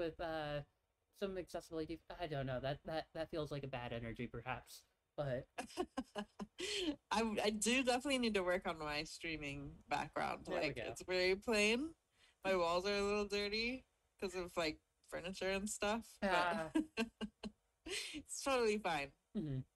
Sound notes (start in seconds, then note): 5.6 laughs